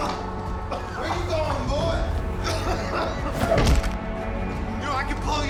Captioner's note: Theo coughing